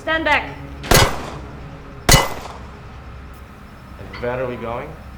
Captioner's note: gunshots boom